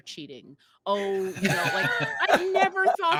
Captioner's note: actors laughing